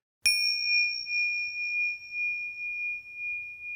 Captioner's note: bell dings